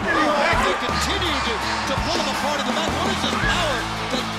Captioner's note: crowd chatter